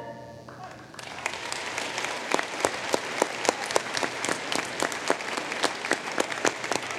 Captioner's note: applause